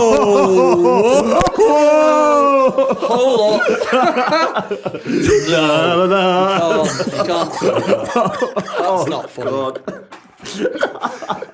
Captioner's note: laughter